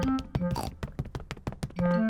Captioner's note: snorts